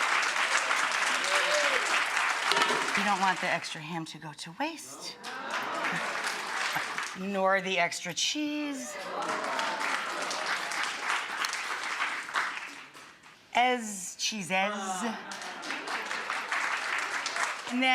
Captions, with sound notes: you don't want the extra ham to go to waste (audience applauding) nor the extra cheese, (audience applauding) cheeses (audience applauding)